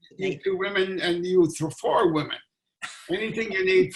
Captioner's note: laughing